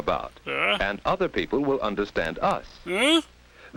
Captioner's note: confused noise